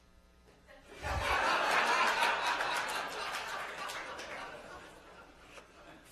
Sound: laughter

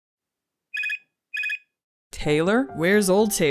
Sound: computer beeps

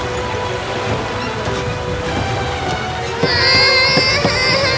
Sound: breaking van window glass

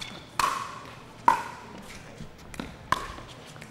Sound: ball bouncing

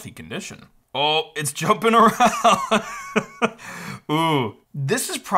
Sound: laughs

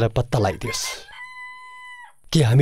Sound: rooster crowing

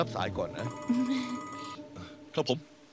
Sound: phone ringing

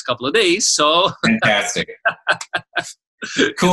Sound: laughing

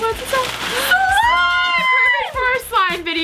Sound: screaming

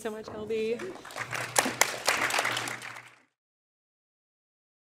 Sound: audience applauding

